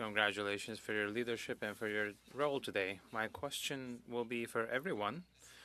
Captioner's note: speaking French